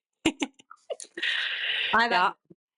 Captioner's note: laughter